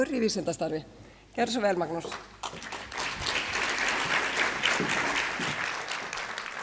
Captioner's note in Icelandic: fagnaðarlæti